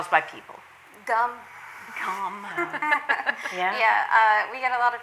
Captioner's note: laughs